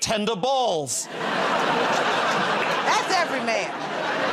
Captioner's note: laughter